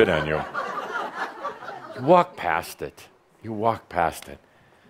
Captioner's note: some chuckles